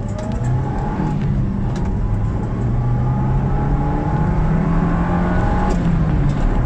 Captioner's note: engine revving sound